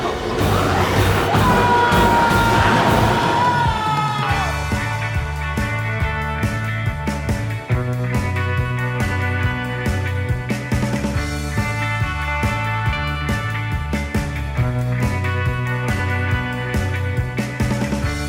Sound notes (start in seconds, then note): 0.1 biker screams; 4.7 energetic guitar music; 13.0 energetic music continues